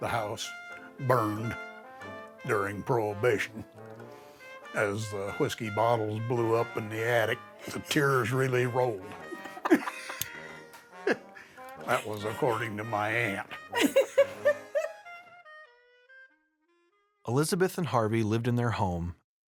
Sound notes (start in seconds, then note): 9.1 laughs; 13.5 laughs